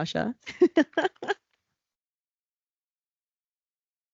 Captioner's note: laughing